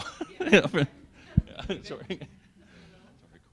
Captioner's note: laughing